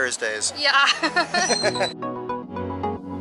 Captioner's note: laughter